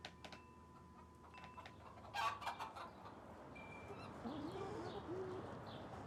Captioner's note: chickens clucking and squawking; birds chirping